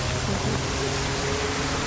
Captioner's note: people Talking